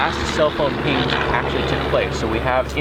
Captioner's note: plane roaring